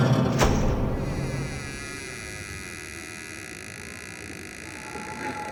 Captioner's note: door creaks open